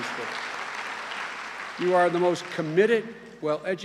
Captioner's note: cheers and applause